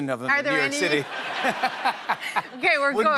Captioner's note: laughs